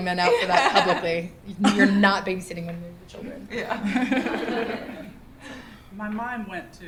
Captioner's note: laughter